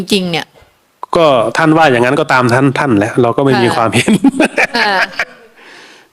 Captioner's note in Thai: เสียงหัวเราะ